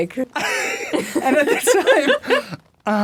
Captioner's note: Dan laughing